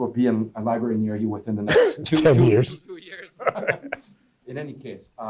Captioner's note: laughing